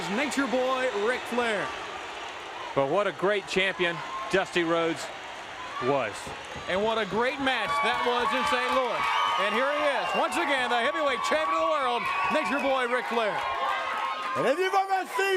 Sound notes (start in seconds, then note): 4.7 crowd cheering